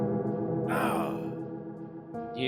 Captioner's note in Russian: стон от боли